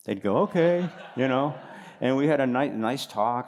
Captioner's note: laughter